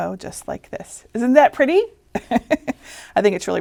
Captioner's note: laughing